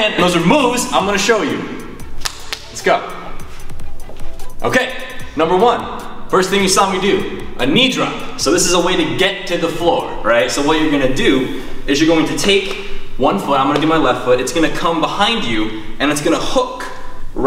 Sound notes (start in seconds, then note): 1.9 palms patting